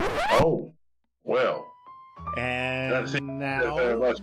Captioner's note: record scratch